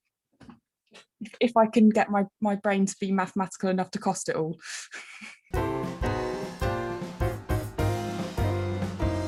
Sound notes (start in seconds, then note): 4.8 chuckling; 5.5 upbeat light jazzy music